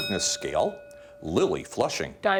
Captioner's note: bell dinging